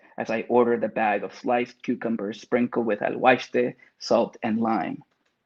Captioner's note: speaks Spanish